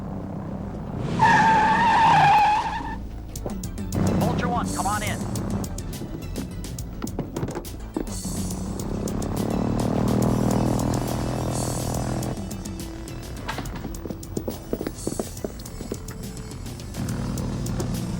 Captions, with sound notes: (tires screeching) (suspenseful music) - Vulture One, come on in. (plane buzzing)